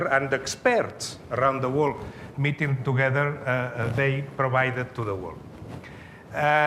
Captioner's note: none